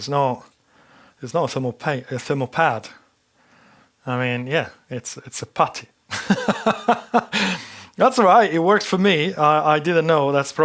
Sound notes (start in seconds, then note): 6.1 laughs